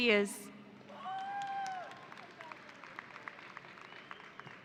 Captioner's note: audience applauding